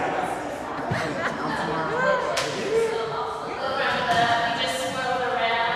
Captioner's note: chatter amongst the room